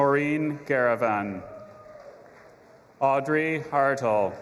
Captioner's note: audience applauding and cheering